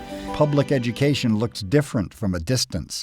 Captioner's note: voiceover